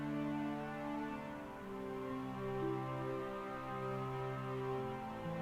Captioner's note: dramatic music; police sirens alarming